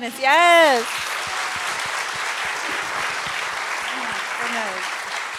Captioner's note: applause